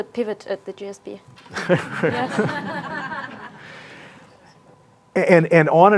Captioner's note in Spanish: Risas